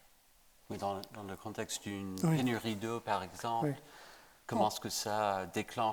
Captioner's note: speaking French to Abderrahmane